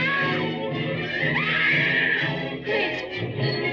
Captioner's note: screaming